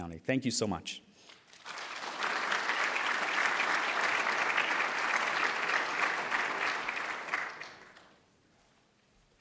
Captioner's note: applause